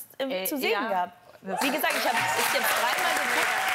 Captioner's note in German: Jubel, Applaus